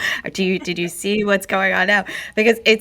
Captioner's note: laughs